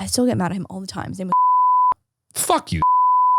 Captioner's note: beep sound